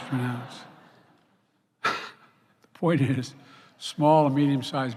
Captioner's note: laughter